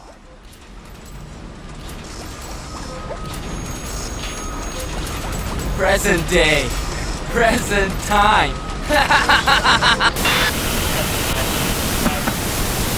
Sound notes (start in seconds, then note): 0.2 machinery sounds; 9.9 Static